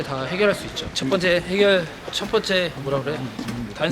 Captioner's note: stammers